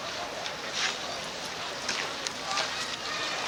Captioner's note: none